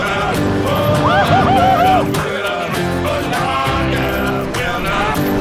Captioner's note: man whooping; upbeat country music